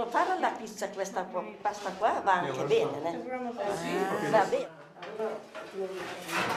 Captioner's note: speaking Italian